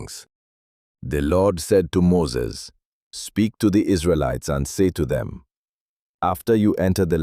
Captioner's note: speaking with authority